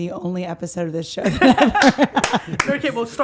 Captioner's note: all laughing